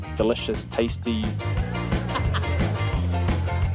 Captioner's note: laughs